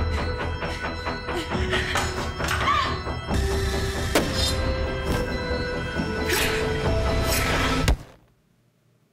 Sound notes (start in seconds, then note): 2.6 Jenelle screams; 2.7 tense sinister music